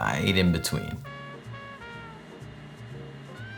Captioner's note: burner humming